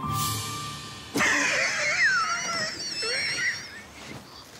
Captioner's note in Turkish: Gülme sesi